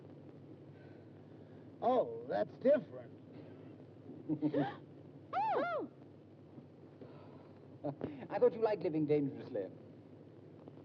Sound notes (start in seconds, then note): 5.2 June gasps